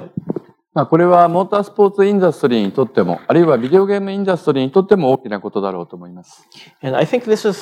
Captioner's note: speaking japanese